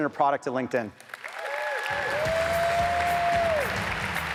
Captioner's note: audience applauds; upbeat music